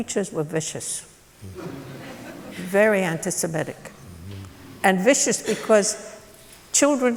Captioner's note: laughter